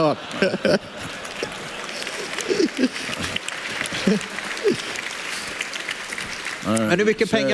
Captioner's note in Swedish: publiken skrattar